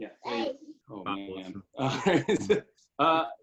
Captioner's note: chuckles